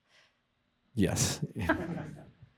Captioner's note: chuckles